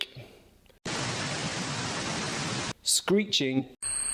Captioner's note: static blaring